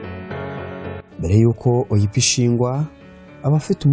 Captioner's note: speaking in Kinyarwanda